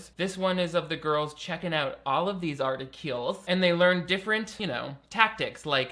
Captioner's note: none